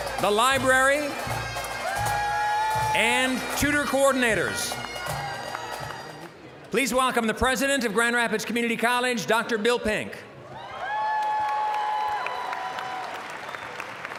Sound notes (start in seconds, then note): 0.0 audience cheering; 6.0 general chatter; 10.5 applause, cheering